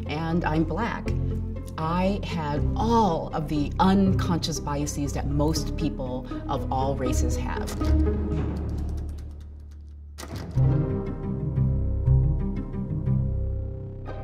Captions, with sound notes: and I'm black, I had all of the unconscious biases that most people of all races have. (clicking) (orchestral music)